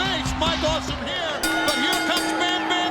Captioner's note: bell rings